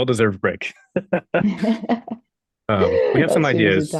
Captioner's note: laughter